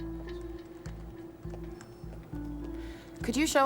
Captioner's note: footstep